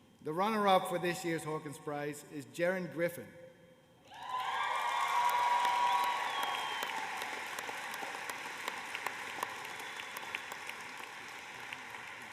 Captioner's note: cheers and applause